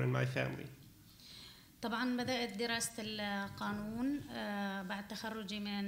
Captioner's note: speaking arabic